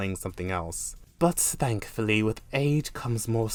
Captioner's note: in Fancy Schmancy British Accent